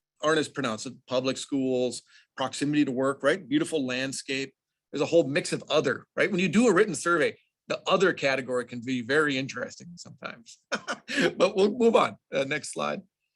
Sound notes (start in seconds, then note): 10.6 laughs